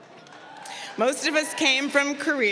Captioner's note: crowd cheering